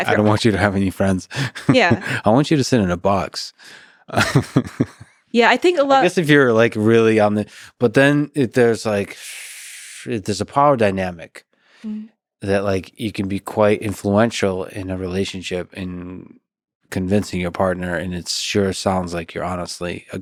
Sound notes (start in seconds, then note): 0.0 laughs; 4.7 laughs